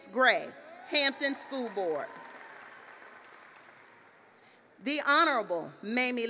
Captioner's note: applause; applause